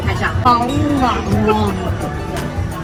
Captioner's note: nom nom nom